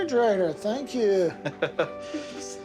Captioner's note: laughing